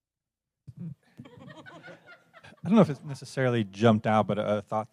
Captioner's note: laugh